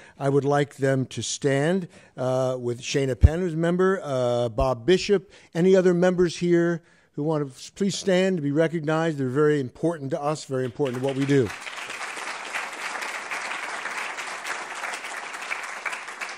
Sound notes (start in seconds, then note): 10.5 applause